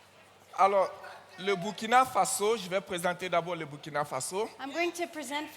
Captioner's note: continues in French